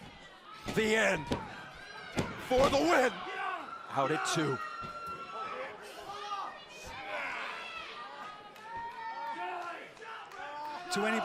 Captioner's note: crowd chatter